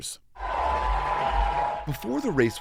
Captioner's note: cheering